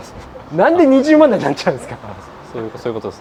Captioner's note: laughs